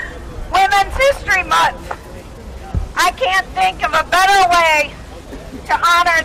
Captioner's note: shouting